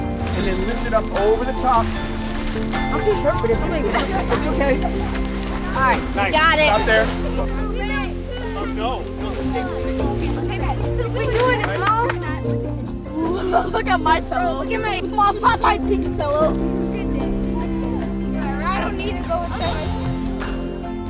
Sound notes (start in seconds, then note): 4.0 kids laughing; 8.8 upbeat music; 10.2 kids mumbling; 12.7 upbeat music; 13.9 kids mumbling; 18.3 upbeat music